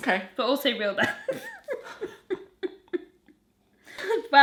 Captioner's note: laughs